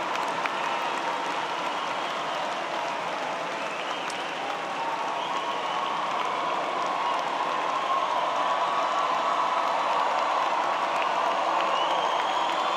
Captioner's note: applause